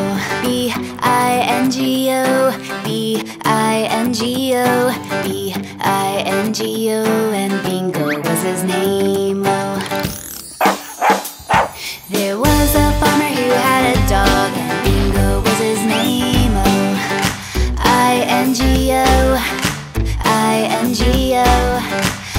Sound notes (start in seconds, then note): 10.6 puppy barking; 19.5 Wally claps